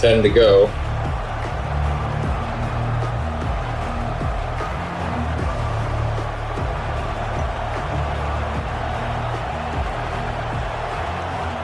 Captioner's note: crowd Noises